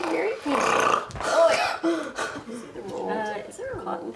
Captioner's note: snorting